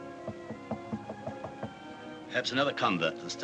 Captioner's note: knocking